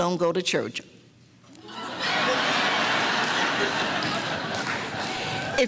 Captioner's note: audience laughter